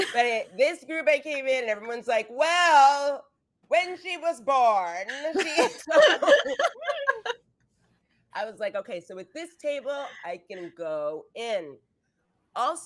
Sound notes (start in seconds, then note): 5.3 actors laughing